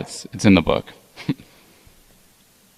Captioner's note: chuckles